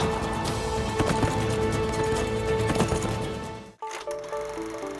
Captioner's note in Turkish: At nalı sesleri